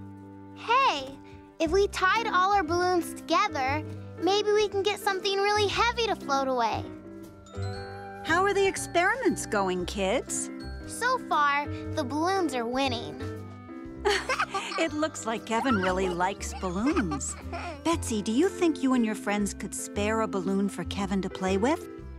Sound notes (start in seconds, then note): 14.0 chuckle